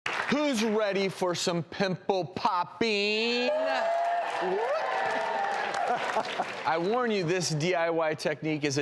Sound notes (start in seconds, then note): 3.3 audience cheers